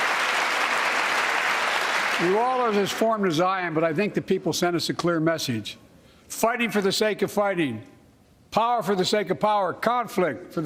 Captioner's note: applause